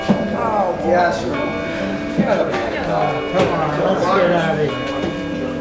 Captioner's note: sounds of discontent